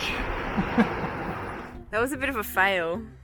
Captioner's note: laughing